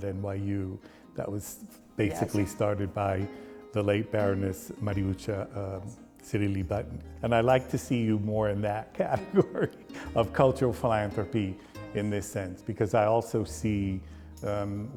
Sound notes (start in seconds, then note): 9.0 laughs